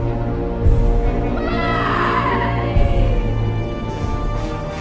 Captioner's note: woman screams